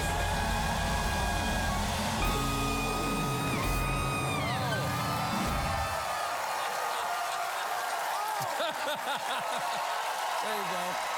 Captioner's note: laughter